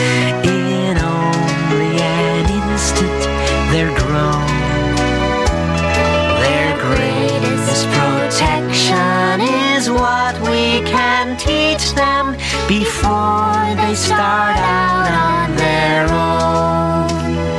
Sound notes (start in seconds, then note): none